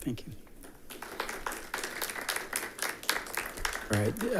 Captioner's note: attendants applauding